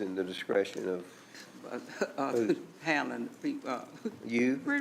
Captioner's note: stammering